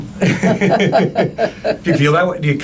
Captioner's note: laughing